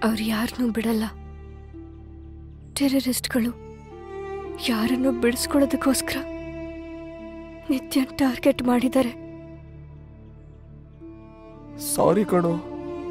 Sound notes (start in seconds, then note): none